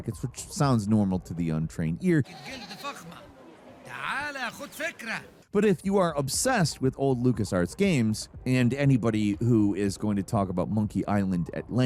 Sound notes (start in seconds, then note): 2.8 game character speaking foreign language